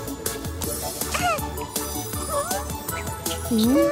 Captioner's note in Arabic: صوت مرح; صوت استغراب